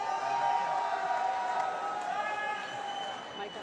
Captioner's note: loud cheering